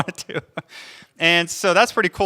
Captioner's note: laughs